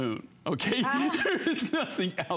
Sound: laughter

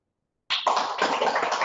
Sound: applause

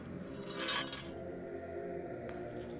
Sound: knife scrapping across floor; soft ominous chanting

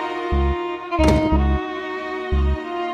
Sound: door closing

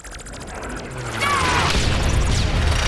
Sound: screaming

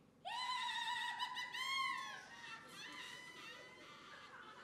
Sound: she laughs hysterically

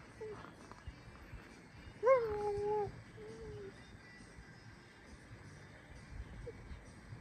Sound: in the background whining

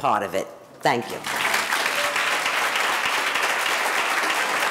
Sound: audience applauding

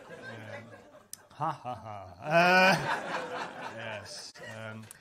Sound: does a big pretend laugh

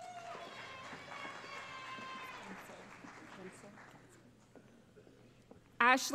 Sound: cheering

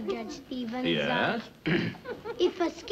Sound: clears throat

